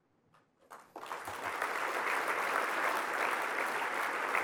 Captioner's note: applause